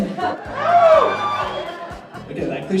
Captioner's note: crowd howls approval